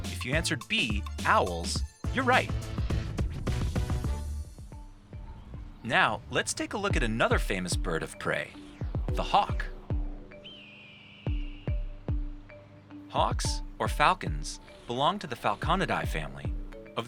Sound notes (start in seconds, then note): 3.3 upbeat music; 10.4 hawk screeching; 10.4 gentle bright music